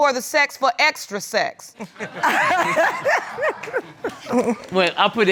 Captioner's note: all laughing